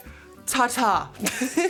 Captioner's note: chuckles